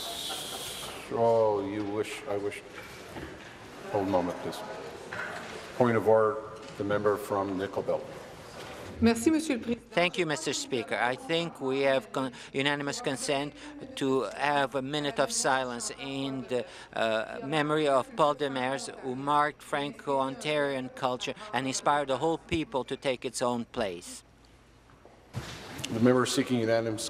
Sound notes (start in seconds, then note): 11.7 speaking in french